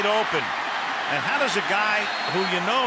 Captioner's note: cheering